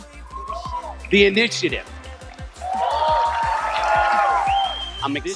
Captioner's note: audience cheers